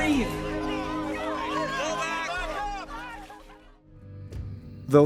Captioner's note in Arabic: صراخ